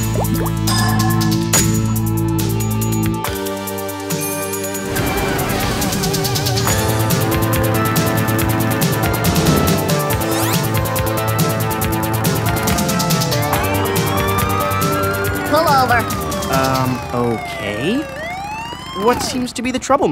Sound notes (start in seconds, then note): 3.9 fire roars; 5.8 rumbles like a motorcycle; 11.4 rumbles; 13.3 siren wails